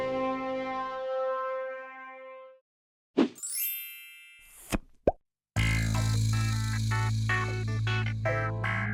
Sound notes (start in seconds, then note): 3.2 frame whooshing; 3.4 chimes tinkling; 5.6 funky upbeat music